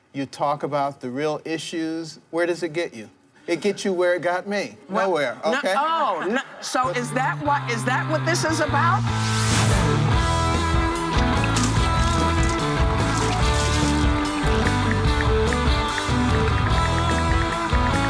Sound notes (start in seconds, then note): 9.7 upbeat rock music; 11.1 paint splattering; 15.1 ticking